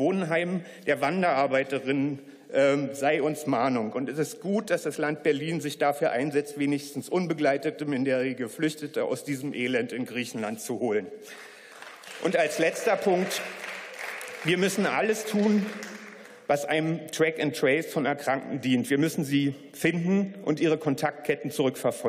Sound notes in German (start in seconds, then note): 11.3 Beifall